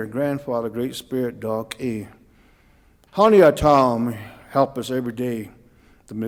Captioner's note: speaking Cauijoga